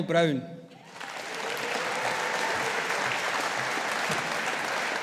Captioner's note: audience applauding